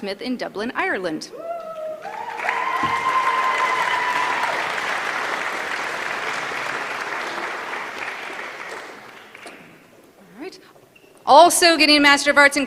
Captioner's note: applause